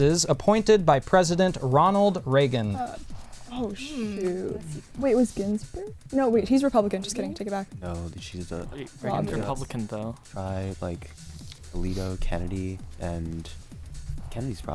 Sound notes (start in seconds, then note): 3.8 whispering